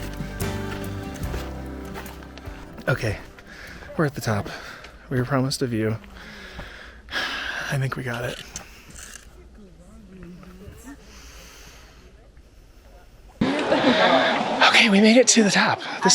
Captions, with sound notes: - Okay. We're at the top. We were promised a view. (sighs) I think we got it. Okay, we made it to the top.